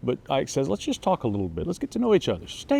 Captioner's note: none